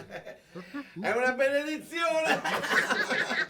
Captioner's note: laughing